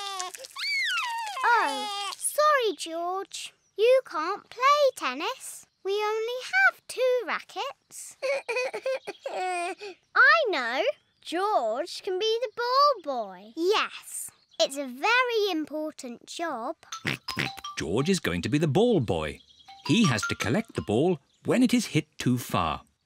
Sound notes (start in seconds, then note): 0.0 screams; 8.2 sobs; 16.7 snorts